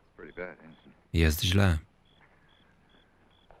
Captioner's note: none